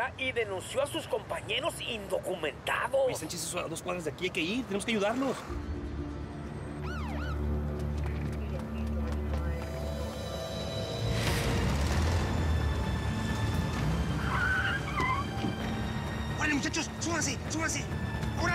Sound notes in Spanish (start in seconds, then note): 7.0 sonido de sirenas; 11.5 sonido de motores; 14.2 chirrido de gomas